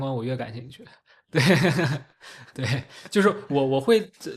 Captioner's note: laughs